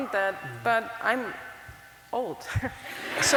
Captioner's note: laugther